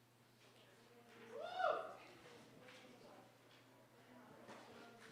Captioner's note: cheering, applause